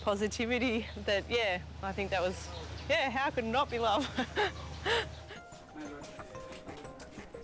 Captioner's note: laughs